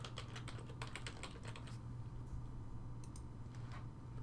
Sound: typing

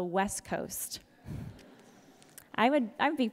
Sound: audience laughs

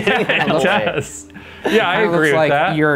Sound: laugh

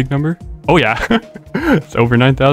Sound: laughter

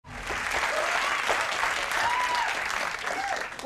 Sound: applause

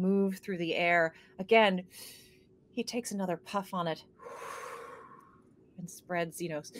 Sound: exhales

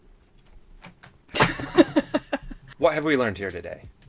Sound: laughs loudly

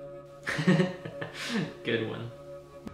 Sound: laughter

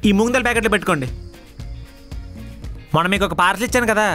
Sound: phone vibrating

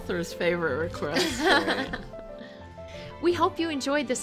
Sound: laughing

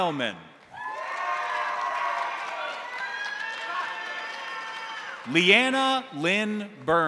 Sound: crowd applauding; crowd cheering

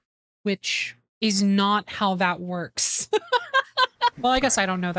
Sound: laughter

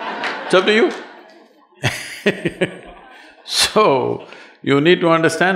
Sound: laughter

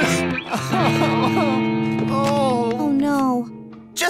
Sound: moaning

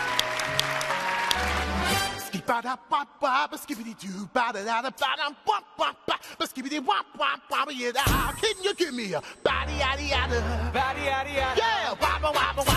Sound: cheers and applause

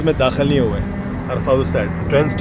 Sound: speaking Arabic

